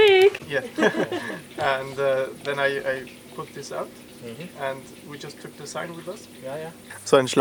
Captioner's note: talking